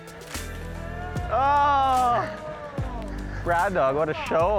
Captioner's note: shouting